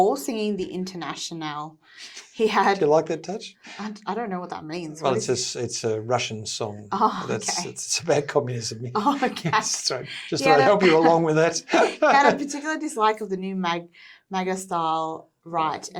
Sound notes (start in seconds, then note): 10.2 laughs